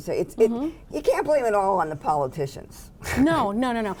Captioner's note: laughs